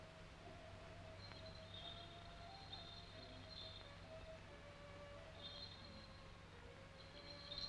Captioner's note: serene music; bells jingling